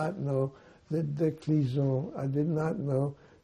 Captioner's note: french